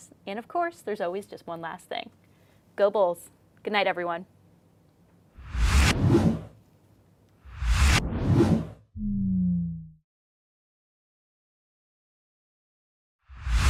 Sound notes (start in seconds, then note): 5.4 graphic whooshing; 9.1 graphic whooshes